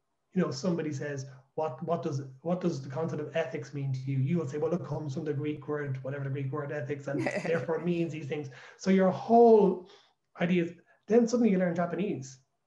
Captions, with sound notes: You know, somebody says what does.. what does the concept of ethics mean to you? You would say well It comes from the Greek word.. whatever the Greek word for ethics is [Laughter] therefore means these things. So your whole ideas.. then suddenly you learn Japanese.